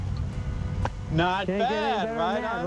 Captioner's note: mumbles